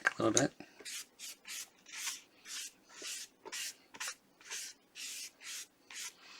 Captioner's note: pencil writing